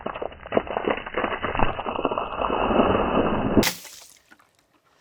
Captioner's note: water hitting wood